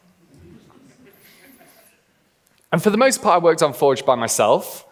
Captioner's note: laughing